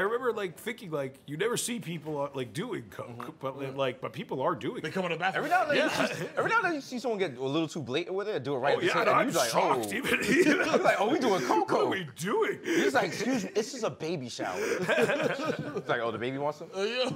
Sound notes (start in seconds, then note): 14.6 laughter